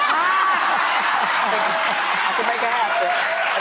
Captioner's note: audience laughs